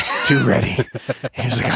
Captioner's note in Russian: Lex смеётся